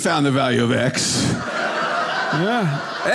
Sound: audience laughing

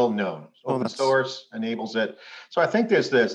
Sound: voice cuts out

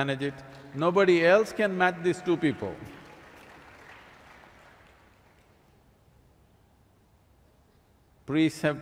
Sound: applause

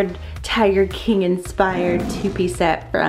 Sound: tiger roars

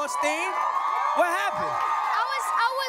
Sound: cheering, applause

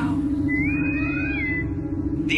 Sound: bosun whistle

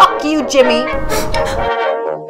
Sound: sniffling

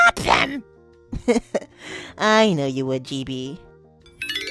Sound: laughs

